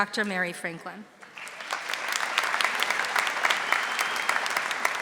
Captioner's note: audience applauding